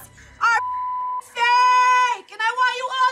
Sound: beep

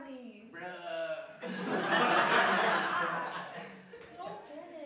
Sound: laughter

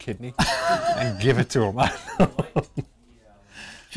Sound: laughter

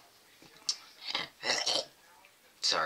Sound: gags

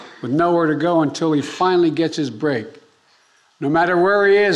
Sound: none

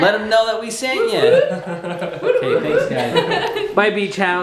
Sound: laughing

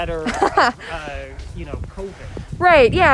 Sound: laughs

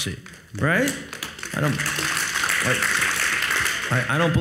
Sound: audience applauds

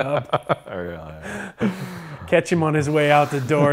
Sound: laughs

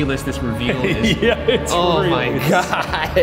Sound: laughing

